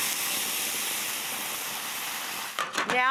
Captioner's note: pan sizzles